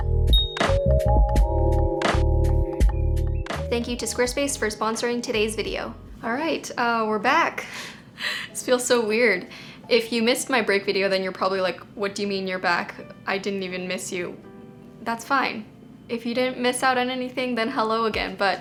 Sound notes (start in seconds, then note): 0.3 bell dings